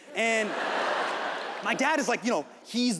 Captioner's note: audience laughs